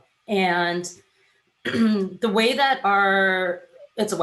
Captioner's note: clears throat